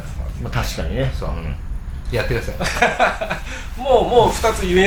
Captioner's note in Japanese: 笑い